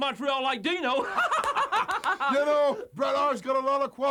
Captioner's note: laugh